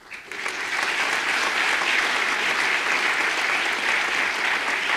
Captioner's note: audience applause